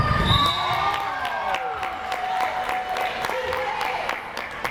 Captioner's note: crowd applause